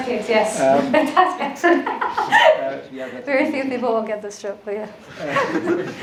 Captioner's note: laughs